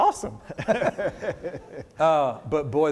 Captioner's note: both laugh